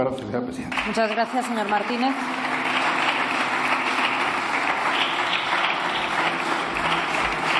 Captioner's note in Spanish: Aplausos